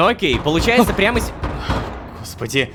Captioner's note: knocking on the bunker door